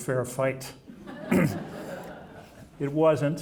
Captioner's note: audience laughing